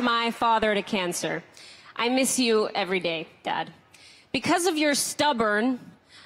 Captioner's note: applause